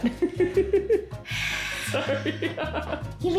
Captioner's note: sigh; laughter